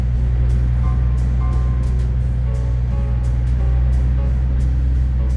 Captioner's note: trucks driving